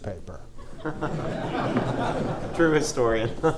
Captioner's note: audience laughs